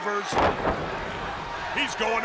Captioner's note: 2 Cold thuds